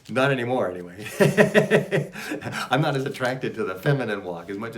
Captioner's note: laughs